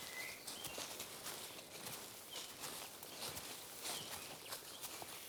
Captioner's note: footsteps crunch on leaves